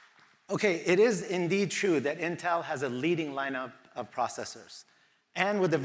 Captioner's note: applause